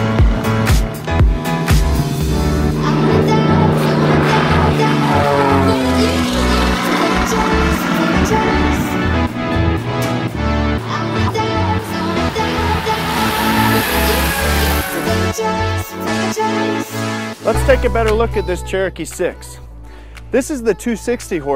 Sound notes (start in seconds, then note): 8.9 Piper Cherokee landing